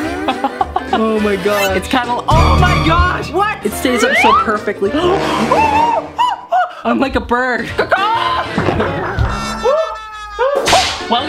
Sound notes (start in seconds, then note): 0.1 laughing; 5.5 screaming; 7.7 laughing